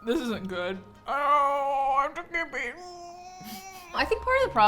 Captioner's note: laughs; groans